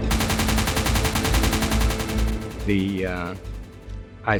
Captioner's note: machine gun firing